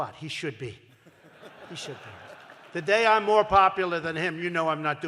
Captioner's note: laughter